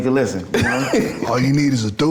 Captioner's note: laughing